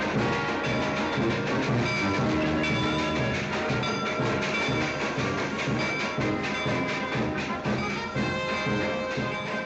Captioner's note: marching band playing; train chugging; band playing loudly